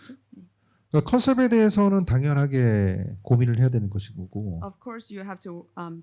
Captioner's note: speaking korean